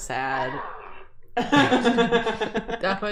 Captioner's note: Thwomp sound effect; laughter